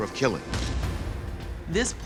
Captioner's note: cannon blasting